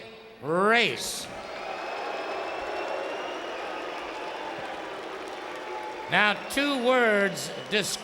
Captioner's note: applause